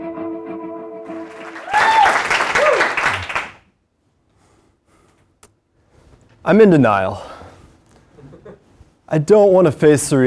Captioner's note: applause